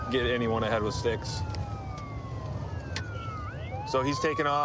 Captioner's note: sirens wailing